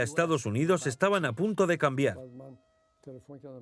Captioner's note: cars honking